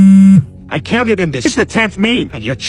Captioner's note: phone buzzing